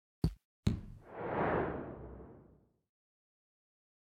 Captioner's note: swish-thud-whoosh 🎶